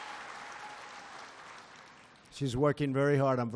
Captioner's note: applause